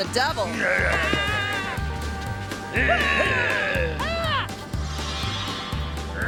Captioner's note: passerby whimpering; prankster growling